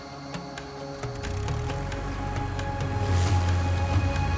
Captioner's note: propellor buzzing